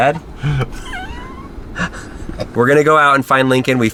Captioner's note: laughing